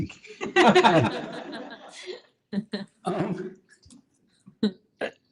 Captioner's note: laughter